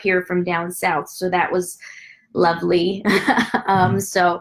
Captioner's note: laughs